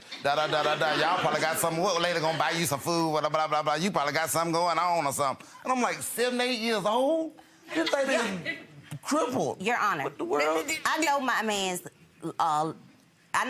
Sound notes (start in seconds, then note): 7.7 audience laughs